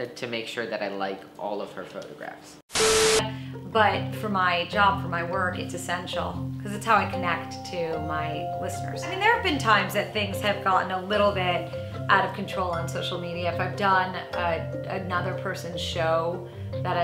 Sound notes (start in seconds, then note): 2.7 static hums; 2.8 tone beeps